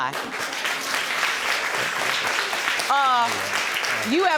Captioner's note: audience applauding